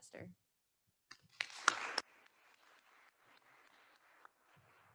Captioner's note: attendees applauding